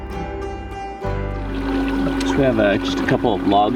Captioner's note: water splashing; engine revving